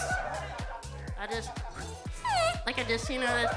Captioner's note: imitates air squeaking